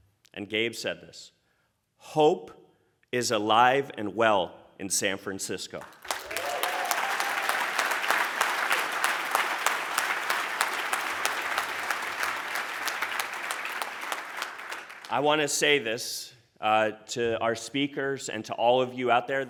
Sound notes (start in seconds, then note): 5.7 applause